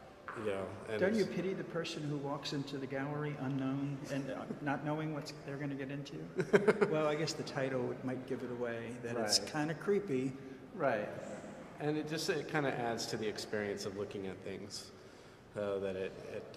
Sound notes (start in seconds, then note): 6.4 laughs